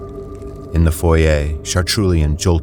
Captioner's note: heavy monstrous footsteps